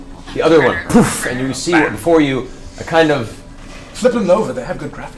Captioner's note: poof